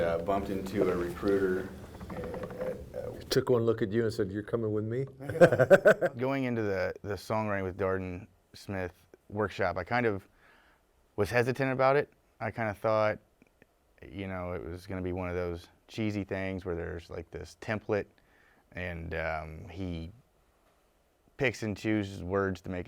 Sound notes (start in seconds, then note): 5.2 laughing